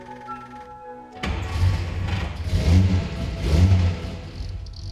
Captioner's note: car engine revving